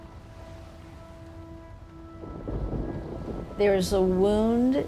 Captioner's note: soft somber music; thunder rumbling